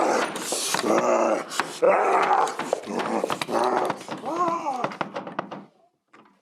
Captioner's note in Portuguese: lúcifer batendo na porta e gemendo de fundo